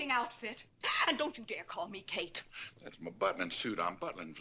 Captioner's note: exclaims